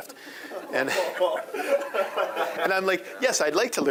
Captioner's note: audience laughing